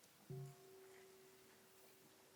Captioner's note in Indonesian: Mengundang bunyi genta